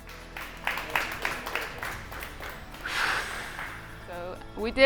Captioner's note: people applaud